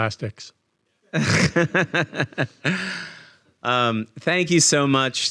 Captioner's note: laughing